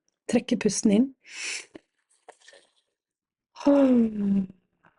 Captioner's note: breathing in